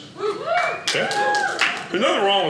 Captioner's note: audience cheers